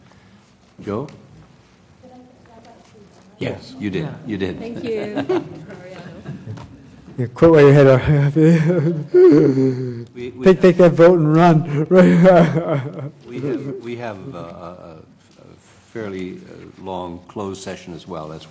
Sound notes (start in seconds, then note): 11.6 laugh